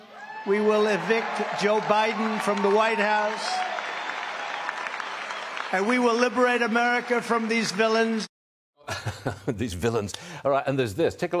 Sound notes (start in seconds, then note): 3.4 applause; 7.5 applause